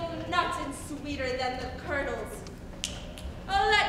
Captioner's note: snaps